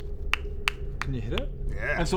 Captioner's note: pop pop pop